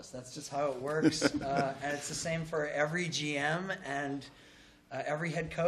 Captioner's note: laughter